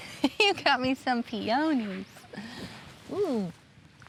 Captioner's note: chuckles